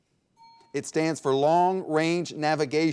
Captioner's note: bell dinging